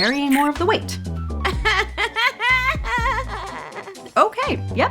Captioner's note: laughs